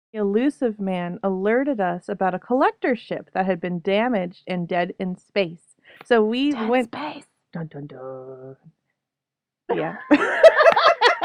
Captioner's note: whisper; laughter